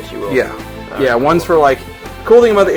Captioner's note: voiceover